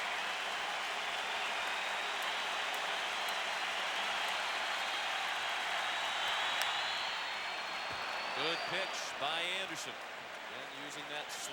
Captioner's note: applause